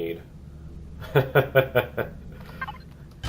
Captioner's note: laughs